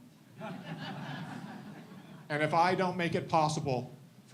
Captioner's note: audience laughs